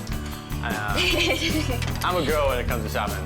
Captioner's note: laughing